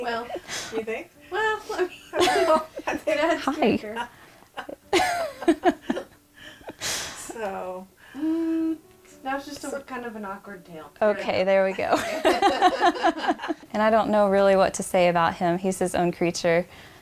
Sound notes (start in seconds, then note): 2.1 all laugh; 11.9 all laugh